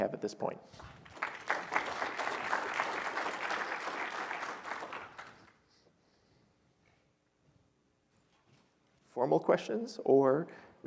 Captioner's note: applause